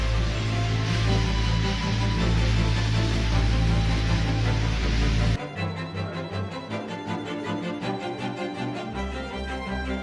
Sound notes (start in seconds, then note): 1.9 Queen Mary's booming whistle sounds; 5.6 passengers chatter amongst each other, the violin music softens